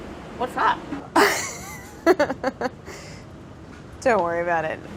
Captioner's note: laughs